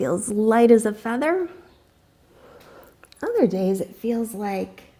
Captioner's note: deep breathing sounds